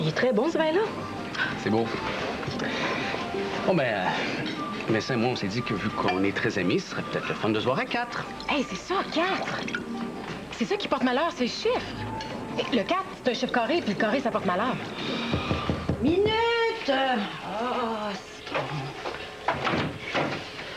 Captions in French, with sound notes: Bien non, il est très bon, ce vin-là. C'est beau. Bon, bien, Vincent puis moi, on s'est dit que, vu qu'on est très amis, ça serait peut-être le fun de se voir à quatre. Hé! C'est ça! Quatre! C'est ça qui porte malheur. C'est le chiffre! Le 4, c'est un chiffre carré, puis le carré ça porte malheur. (On frappe à la porte.) Minute! Ah, citron!